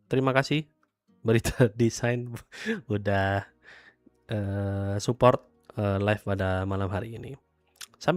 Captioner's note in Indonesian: tertawa